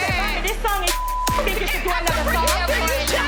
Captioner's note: beep